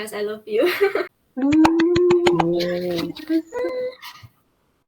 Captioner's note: laughs; clapping